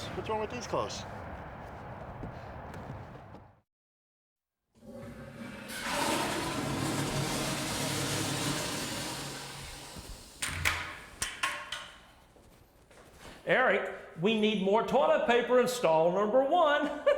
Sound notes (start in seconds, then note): 4.7 toilet flushing; 10.2 latch clicking